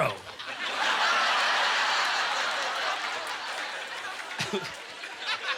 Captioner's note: audience laughter